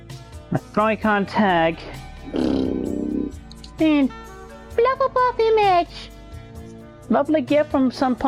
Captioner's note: blows raspberry